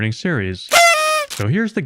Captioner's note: party horn sound effect